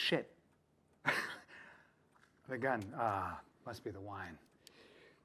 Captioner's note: chuckling